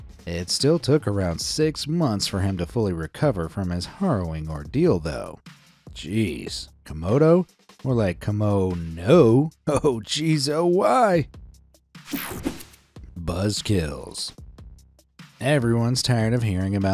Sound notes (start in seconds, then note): 12.1 page swishing